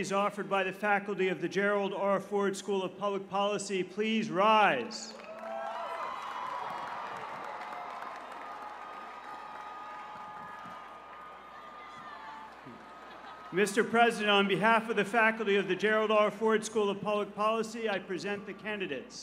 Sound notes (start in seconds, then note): 5.1 cheers and applause